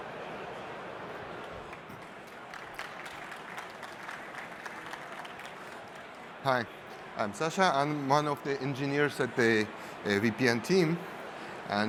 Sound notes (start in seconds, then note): 1.3 applause